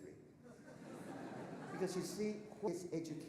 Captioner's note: audience laughing